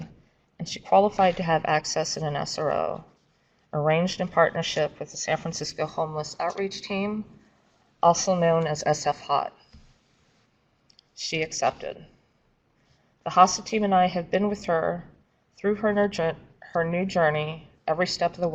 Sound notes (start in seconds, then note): none